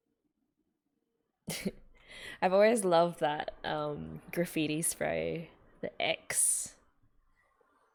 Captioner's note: chuckles